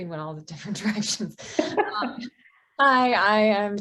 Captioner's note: both laughing